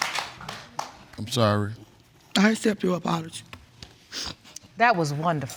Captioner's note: sniffles